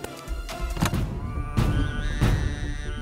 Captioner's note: Car trunk opening